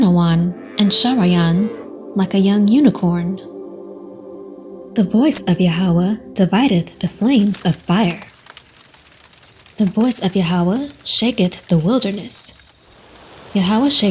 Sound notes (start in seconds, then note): 8.3 fire crackling; 11.8 birds chirping; 11.8 leaves rustling